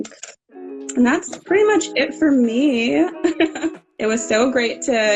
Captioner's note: laughing